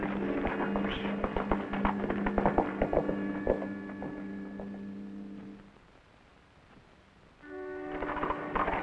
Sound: horse trotting; horses trotting

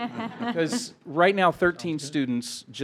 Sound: trustees laugh

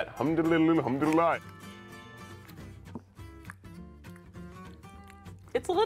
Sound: smacking

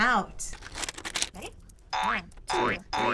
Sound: boing sound

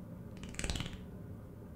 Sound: skittering

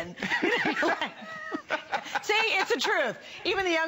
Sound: laughter

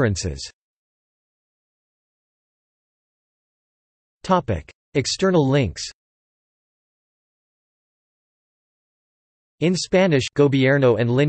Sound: in Spanish

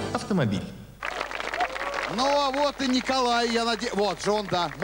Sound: applause

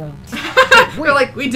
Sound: laughs

